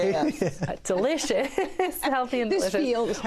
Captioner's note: laughs